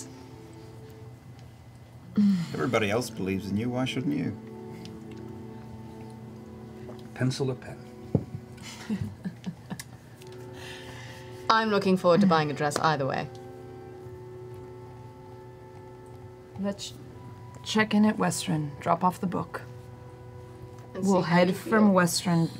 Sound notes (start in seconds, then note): 8.6 laughs